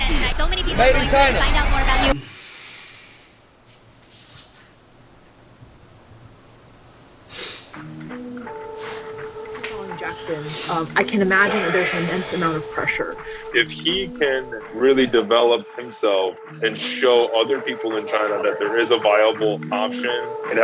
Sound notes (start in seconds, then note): 7.3 sniffs